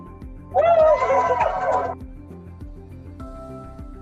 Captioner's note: cheering